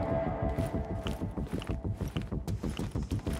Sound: shoes clicking

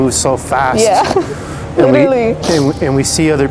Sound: chuckles

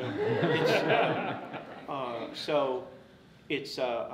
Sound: audience laughs

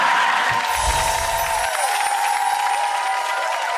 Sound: crowd cheers

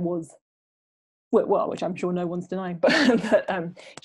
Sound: laughs

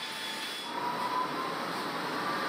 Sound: droning

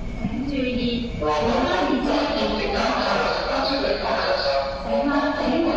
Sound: Cantonese

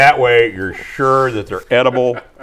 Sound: laughing

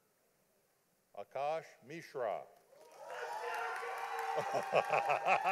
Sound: audience applauding; laughing

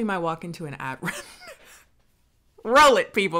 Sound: laughs

